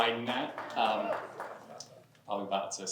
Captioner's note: cheers, applause